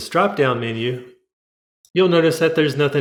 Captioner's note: click